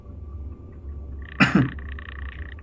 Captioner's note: coughs